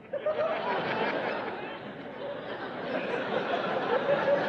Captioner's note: laughing